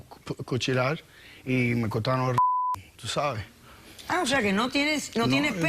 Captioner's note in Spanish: Bip